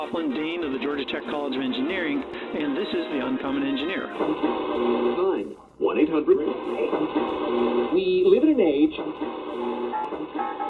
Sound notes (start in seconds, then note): 4.5 radio modulating to various frequencies; 10.4 jazz music